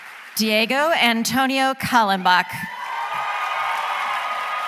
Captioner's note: applause